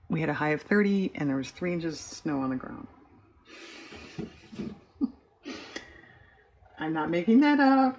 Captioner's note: laughs